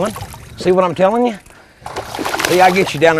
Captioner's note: splash